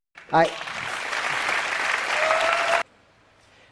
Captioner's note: applause